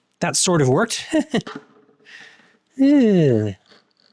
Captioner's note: laughs